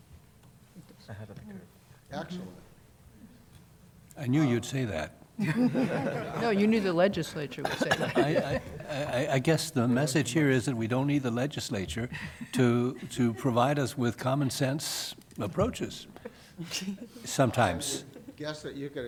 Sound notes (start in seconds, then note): 12.1 laughter